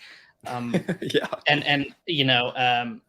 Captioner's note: laughs